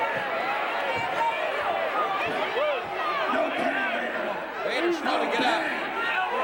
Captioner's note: audience indistinct yelling